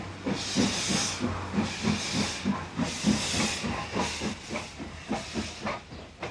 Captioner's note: train passes